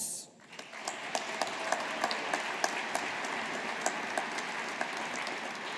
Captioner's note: audience applauding